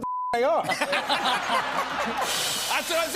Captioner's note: laughter